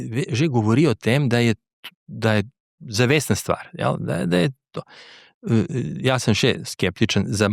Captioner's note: clears throat